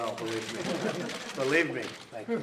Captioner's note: laughter